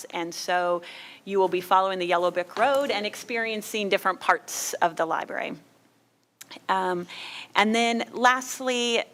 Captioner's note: none